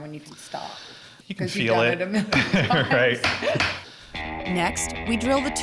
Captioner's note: laughs